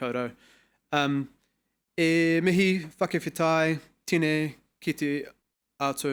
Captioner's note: speaking foreign language